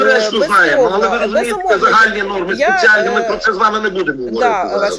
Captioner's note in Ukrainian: сміх